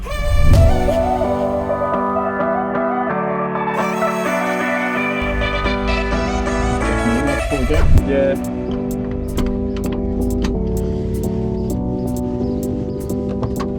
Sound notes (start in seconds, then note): 1.1 upbeat music; 9.3 seatbelt clicks